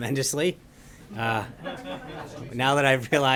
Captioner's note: laughter